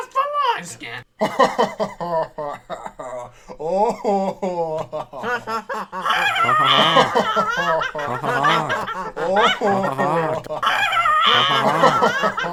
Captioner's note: everyone laughs